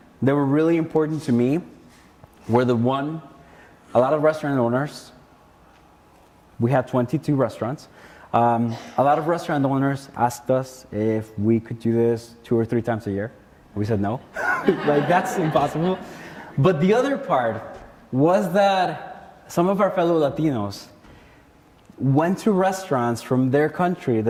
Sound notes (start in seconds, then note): 14.3 laughs; 14.3 audience laughing